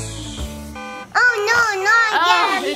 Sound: alarm ringing

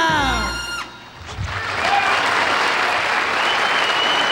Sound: audience applauds

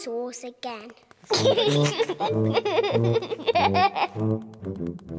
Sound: giggling

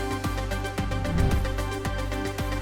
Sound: bright upbeat music continues; air whooshing; bright upbeat music continues

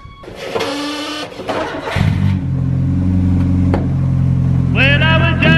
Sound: car engine roaring

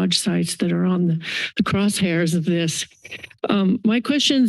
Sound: inhales

